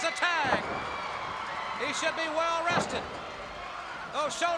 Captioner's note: crowd cheering